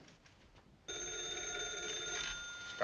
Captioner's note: ringing